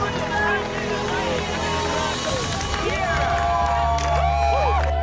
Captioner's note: cheering